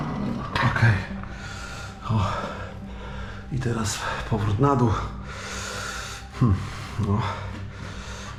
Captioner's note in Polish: wciągnięcie powietrza